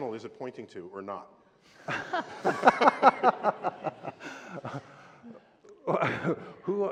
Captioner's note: laughter